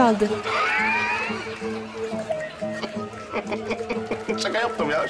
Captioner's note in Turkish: Gülme sesi